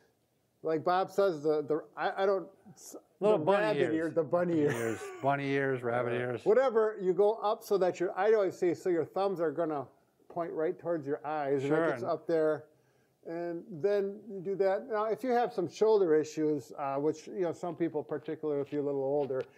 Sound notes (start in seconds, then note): 4.6 laughs